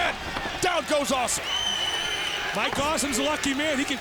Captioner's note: crowd clamoring